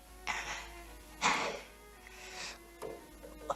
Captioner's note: gasping